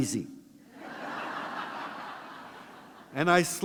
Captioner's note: laughter